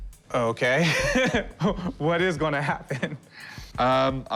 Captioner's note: laughs